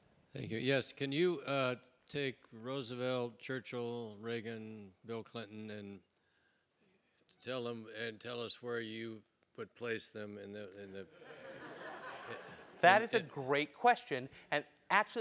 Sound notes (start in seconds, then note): 10.8 laugh